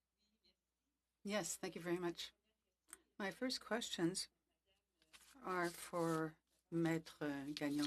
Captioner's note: speaking French